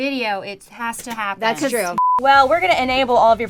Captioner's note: beep